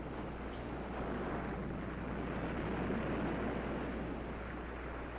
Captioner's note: waves crashing